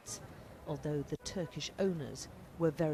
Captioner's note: none